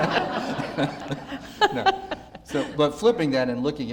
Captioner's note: audience laughter